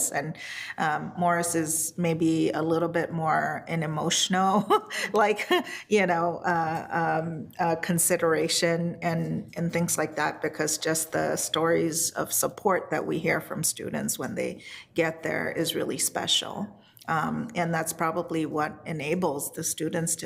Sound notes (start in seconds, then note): 4.7 laughs